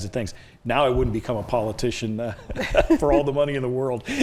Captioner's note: laughs